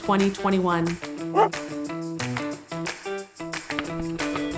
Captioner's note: dog barks